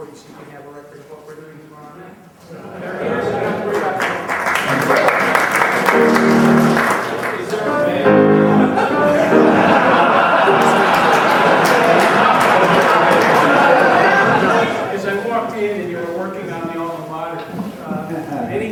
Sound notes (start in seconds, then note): 4.3 crowd applauding; 9.5 crowd laughing